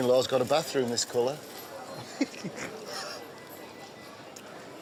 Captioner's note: laughs